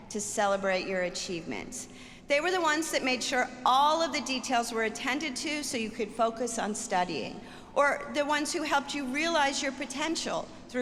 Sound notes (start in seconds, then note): none